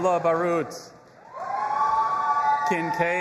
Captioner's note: audience applauding and cheering